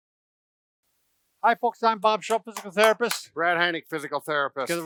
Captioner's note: claps